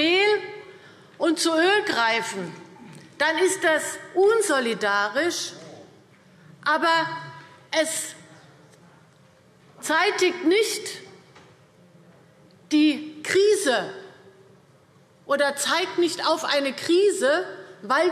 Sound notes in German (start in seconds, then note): none